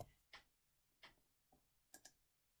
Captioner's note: click